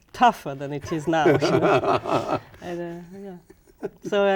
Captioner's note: laughing